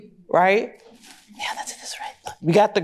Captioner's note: whispering